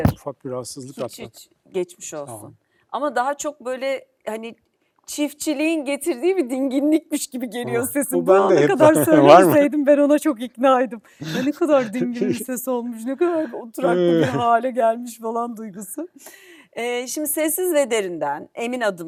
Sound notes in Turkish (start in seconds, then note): 14.0 kahkaha